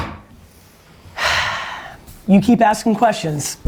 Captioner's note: sighs